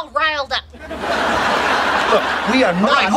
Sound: audience laughing

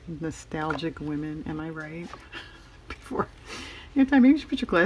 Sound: laughs

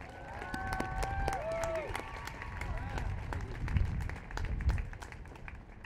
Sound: applause

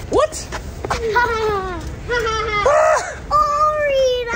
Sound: laughs teasingly

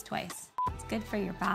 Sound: beep

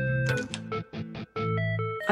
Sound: door opening

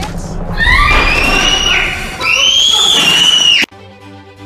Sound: screams

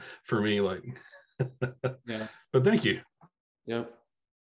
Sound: laughs

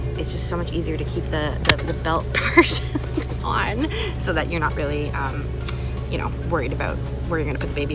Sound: slap; haha

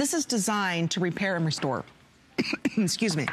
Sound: coughing

